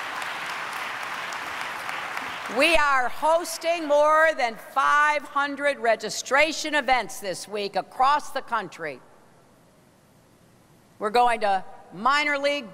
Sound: applause

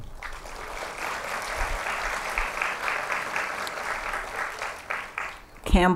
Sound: applause

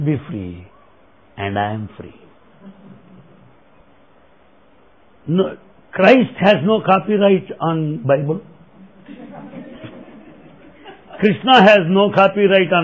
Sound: laughter

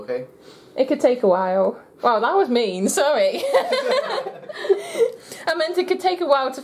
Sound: laughter

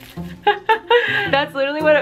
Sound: giggling

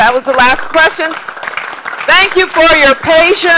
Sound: applause

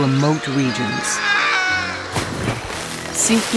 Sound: screaming; splash

